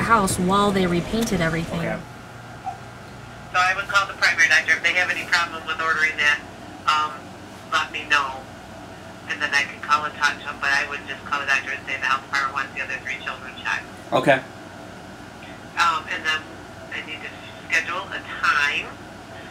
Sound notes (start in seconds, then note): 2.1 woman on Phone; 15.4 woman on Phone